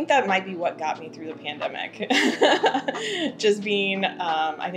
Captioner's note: laughing